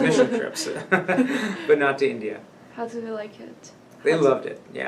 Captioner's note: all laugh